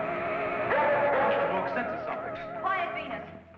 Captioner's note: Venus barking too loud